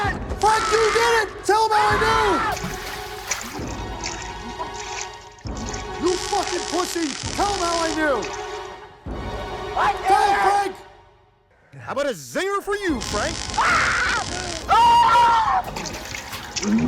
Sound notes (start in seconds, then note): 13.5 screaming